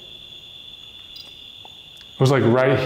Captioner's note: crickets chirping